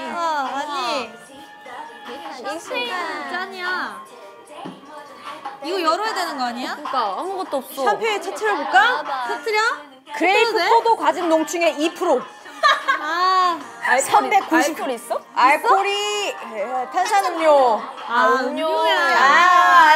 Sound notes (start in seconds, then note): 12.4 laughing